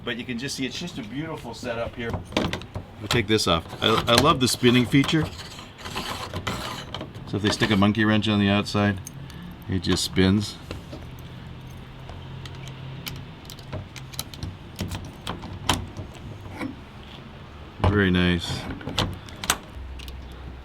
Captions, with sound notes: but you can just see it's just a beautiful setup here. We'll take this off. I love the spinning feature. (grinding) So if they stick a monkey wrench on the outside, it just spins. (key rattling in lock) Very nice.